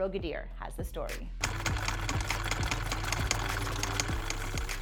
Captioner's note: machine clicking